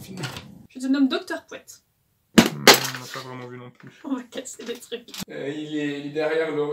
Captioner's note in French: bruit de chute